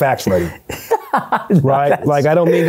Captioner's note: laughs